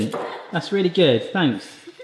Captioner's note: chuckles